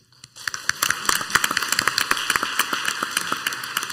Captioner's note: clapping